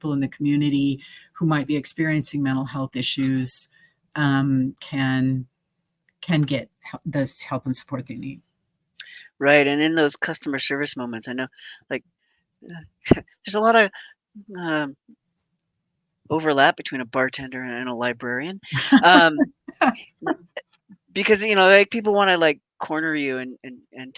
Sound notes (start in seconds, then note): 18.7 laughing